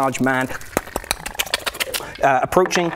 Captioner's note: snuffle